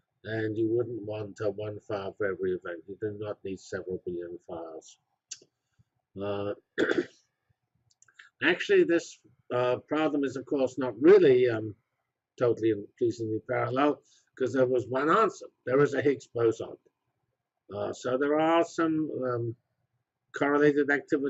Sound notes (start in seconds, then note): 6.7 cough